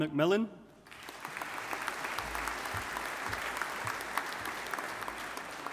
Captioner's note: audience applauding